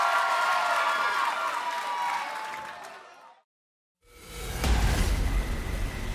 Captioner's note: crowd cheering